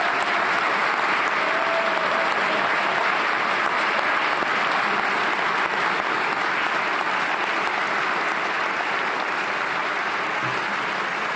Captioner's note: cheers and applause